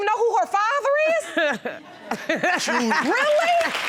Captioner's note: laughs